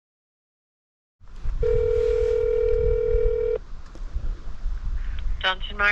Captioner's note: phone ringing